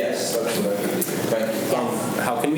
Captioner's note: faintly speaking